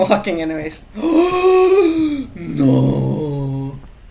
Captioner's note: gasp